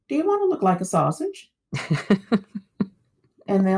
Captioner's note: laughter